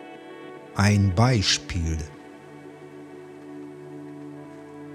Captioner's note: german